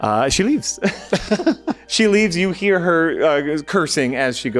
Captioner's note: laughing